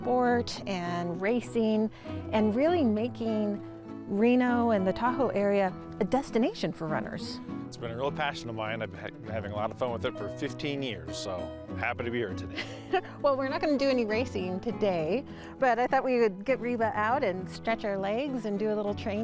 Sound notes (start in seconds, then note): 12.5 laughs